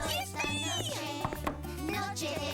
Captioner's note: knock knock